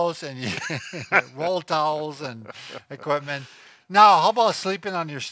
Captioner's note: laughing